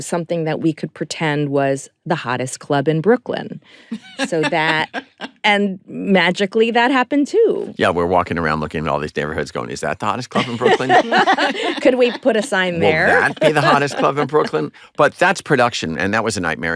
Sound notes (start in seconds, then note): 10.3 laughter